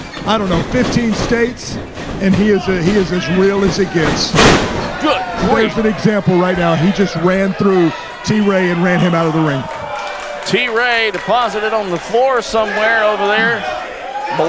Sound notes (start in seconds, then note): 4.2 loud thud; 10.1 crowd applaud